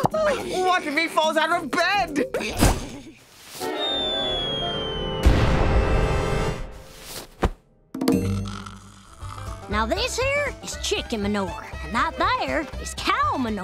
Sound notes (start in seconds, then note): 8.6 snoring